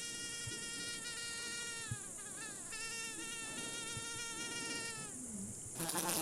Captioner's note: the buzzing of mosquitos